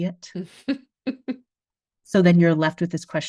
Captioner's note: laughs